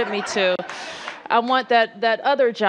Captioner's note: laughter